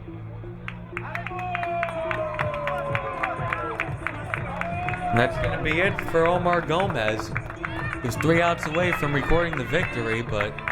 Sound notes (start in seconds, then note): 2.0 crowd cheering